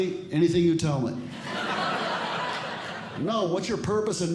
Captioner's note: audience Laughing